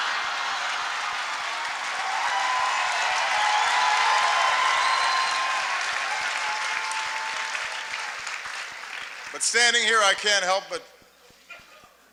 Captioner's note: laughter, applause